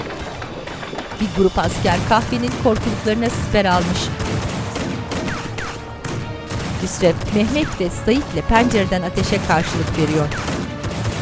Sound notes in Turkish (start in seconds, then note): 0.0 Silah sesleri; 2.9 Müzik - Gerilim; 2.9 Silah sesleri